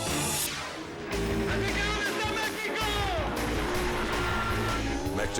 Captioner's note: exciting music; announcer shouts in Spanish